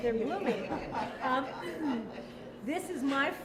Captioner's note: laughter